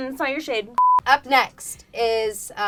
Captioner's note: beep